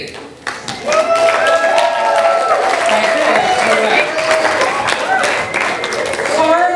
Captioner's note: audience applause